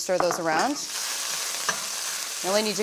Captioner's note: sizzling